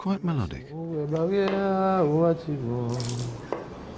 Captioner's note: sings; water pours